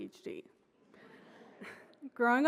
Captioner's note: audience laughs